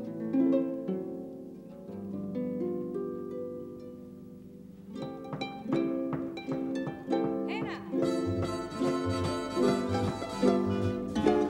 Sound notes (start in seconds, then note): 4.9 taps foot; 8.3 band joins in